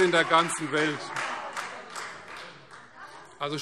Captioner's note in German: Beifall Freie Demokraten - Zurufe